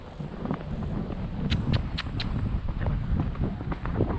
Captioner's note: clicks tongue again